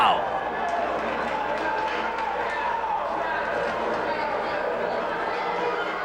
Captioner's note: spectators cheering and applauding